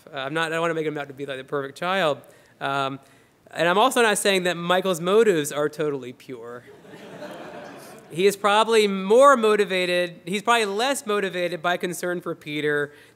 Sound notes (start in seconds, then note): 6.6 laughter